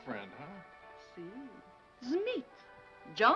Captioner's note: speaking foreign language